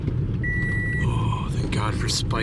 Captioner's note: car beeping